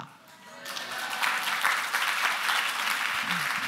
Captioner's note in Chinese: 鼓掌歡呼